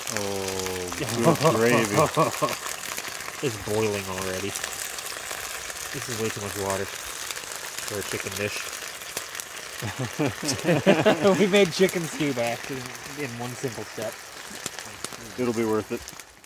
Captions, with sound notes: Ohh good gravy. Oh ho ho, it's boiling already. This is way too much water for a chicken dish. [Laughing] We made chicken stew by accident, in one simple It'll be worth it.